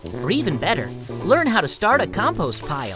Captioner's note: leaves falling